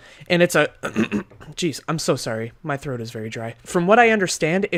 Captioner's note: clears throat